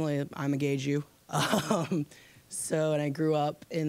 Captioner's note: laughing